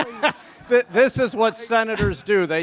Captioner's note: all chuckle